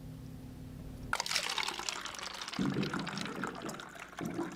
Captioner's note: liquid trickling